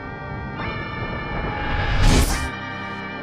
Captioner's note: fast forward Sound